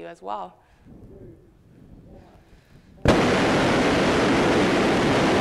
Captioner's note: rocket engine firing